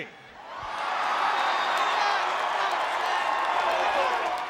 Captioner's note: audience cheering